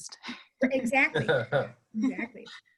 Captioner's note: man laughs